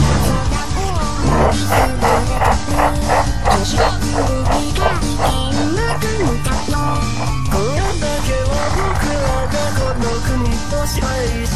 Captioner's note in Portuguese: huahahahahahahaha